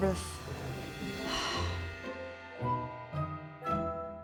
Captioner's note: sigh